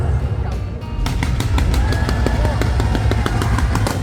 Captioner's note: mouth-watering sound effects, fast speed, sincere reaction